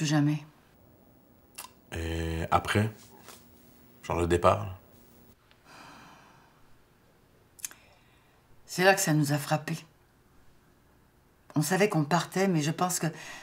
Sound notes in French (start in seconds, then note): 4.8 soupir